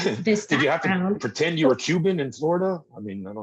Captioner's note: laughing